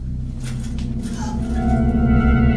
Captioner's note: Paige gasping; dramatic music